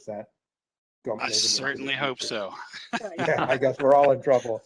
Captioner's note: laughter